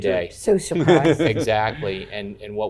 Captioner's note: chuckling